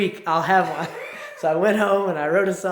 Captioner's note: laughs